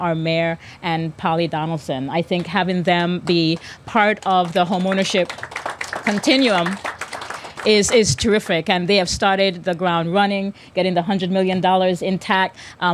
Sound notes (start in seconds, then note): 7.0 applause